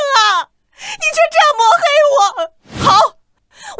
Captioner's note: scoffs